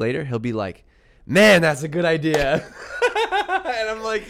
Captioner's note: laughs